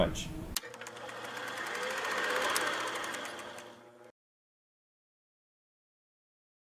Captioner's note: film reel rolling